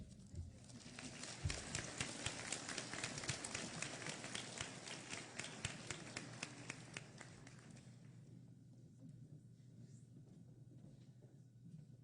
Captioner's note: applause